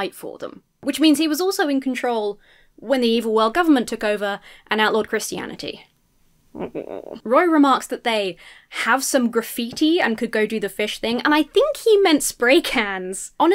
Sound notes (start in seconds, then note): 6.6 groans in confusion